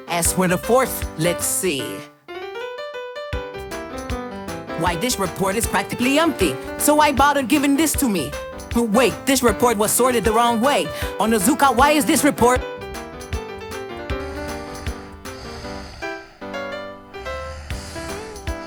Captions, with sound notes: As for the fourth one. Let's see. Why this report is practically empty. So why bother giving this to me? Wait, this report was stapled the wrong way. Onozuka, why is this report- (snoring)